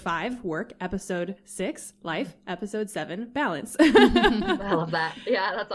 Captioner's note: laughter